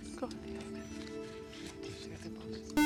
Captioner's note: whispering